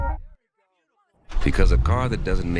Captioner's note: muffled sounds of people outside